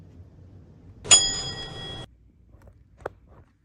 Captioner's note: atc chime